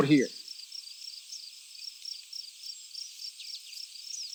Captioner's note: insects chirping